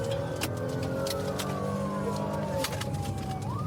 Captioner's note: siren blaring